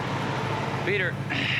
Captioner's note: sighs